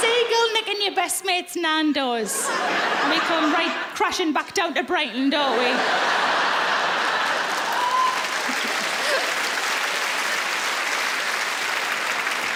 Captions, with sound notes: A seagull nickin' your best mate's Nando's. And we come right crashing back down to Brighton, don't we?[laughing] [applause]